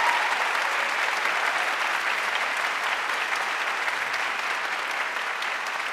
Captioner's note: audience applauding and cheering